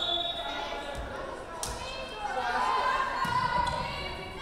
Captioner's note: whistle blowing